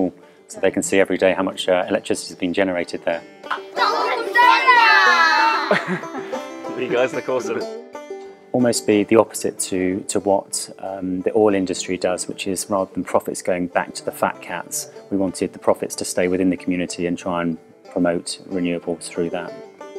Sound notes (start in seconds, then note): 4.2 yelling; 5.3 laughter from behind camera